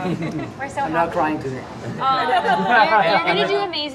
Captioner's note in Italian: tutti ridono